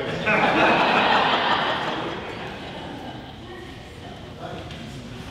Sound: audience laughing

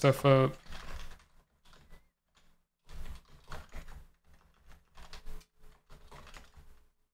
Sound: typing

